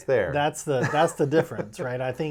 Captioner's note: laughing